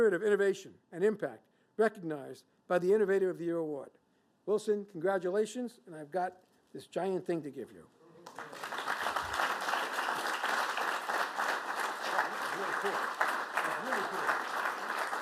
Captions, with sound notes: of innovation and impact recognized by the Innovator of the Year Award. Wilson, congratulations, and I've got this giant thing to give you. [APPLAUSE] Very cool. That's really cool.